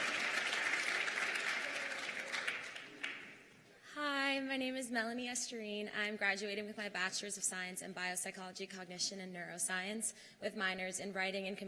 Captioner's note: cheers and applause